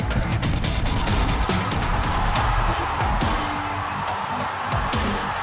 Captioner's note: crowd cheering